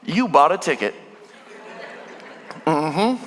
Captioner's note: congregation laughing